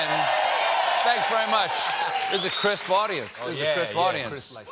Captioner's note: cheers and applause